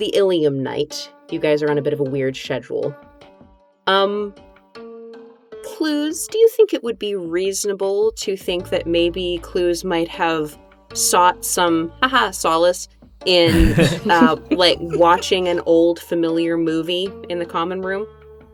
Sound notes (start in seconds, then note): 13.4 chuckle